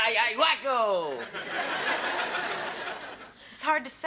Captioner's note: audience laughs